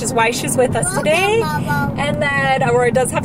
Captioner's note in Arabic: يغمغم